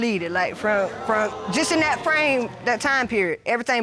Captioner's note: audience exclaims